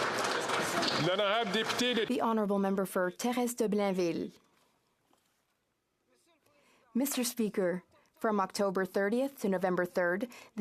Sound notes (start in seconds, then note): 2.9 some Applause